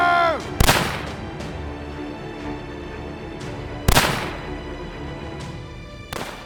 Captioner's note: suspenseful music; gun firing